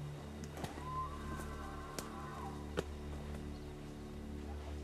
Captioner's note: faint elk bugling